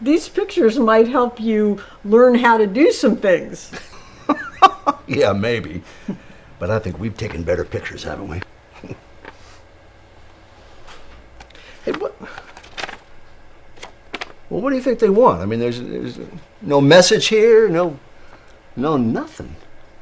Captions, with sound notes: - These pictures might help you learn how to do some things. - (laughs) Yeah, maybe, but I think we've taken better pictures, haven't we? Hey, what... (envelope rustles) Well, what do you think they want? I mean, there's no message here. No nothin'.